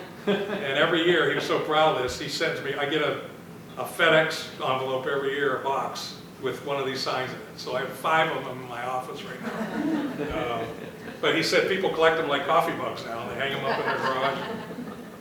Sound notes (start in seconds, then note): 9.3 laughter